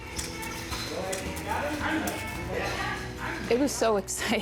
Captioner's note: player chatter